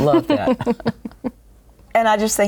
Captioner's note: laughter